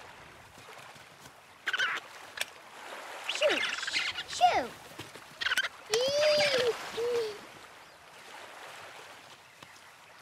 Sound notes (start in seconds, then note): 1.6 bird squawks; 5.9 Moana shouts